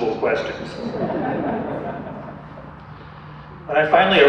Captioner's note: audience laughter